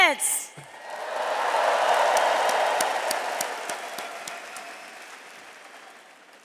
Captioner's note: attendees cheering and applauding